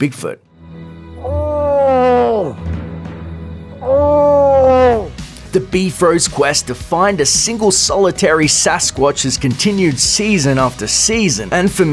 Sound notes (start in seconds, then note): 1.6 Bigfoot call